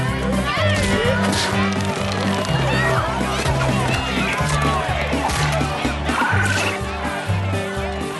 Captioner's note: shouting continues